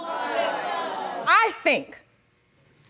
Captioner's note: audience murmuring discontent